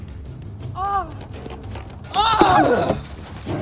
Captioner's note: battle cry